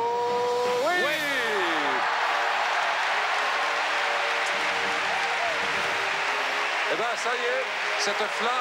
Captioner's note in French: acclamations